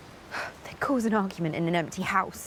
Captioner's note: huffs